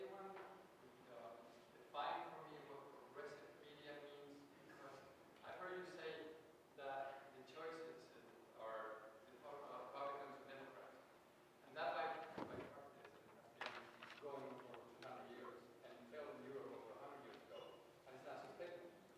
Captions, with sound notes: but both are simple. Could anyone define for me what progressive media means. I've heard you say that the choices are Republicans and Democrats. (audience member speaking softly)